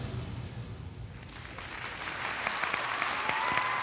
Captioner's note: applause